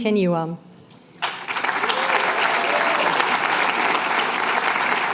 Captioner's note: applause